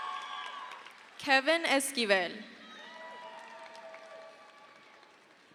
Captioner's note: crowd cheers; crowd cheers